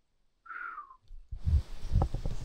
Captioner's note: whistling